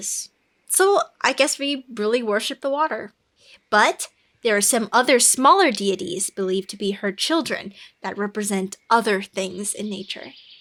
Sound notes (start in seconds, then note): none